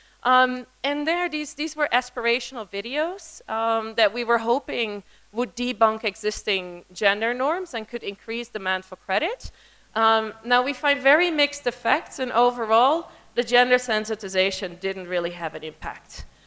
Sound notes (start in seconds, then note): none